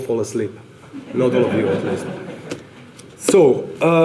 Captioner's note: audience laughter